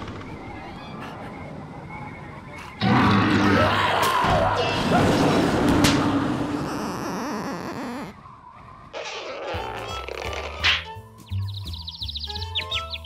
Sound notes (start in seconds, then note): 2.8 growling; 4.1 banging; 6.6 squeaking; 10.6 birds chirping